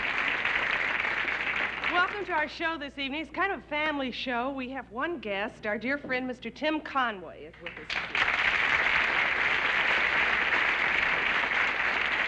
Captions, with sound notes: Welcome to our show this evening. It's kind of a family show. We have one guest, our dear friend Mr. Tim Conway is with us this evening. (applause)